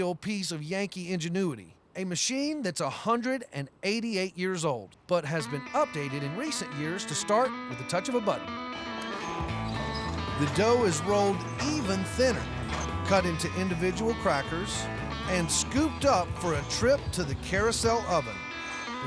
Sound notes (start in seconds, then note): 9.0 clicking button